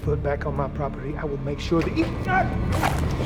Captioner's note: grunts